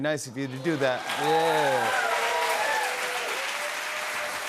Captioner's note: cheers and applause